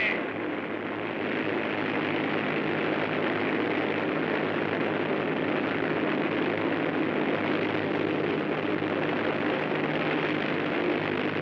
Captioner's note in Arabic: هدير الطائرة